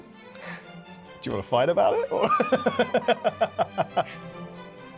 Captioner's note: theatrical music; laughs; theatrical music